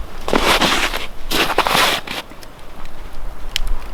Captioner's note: snow crunching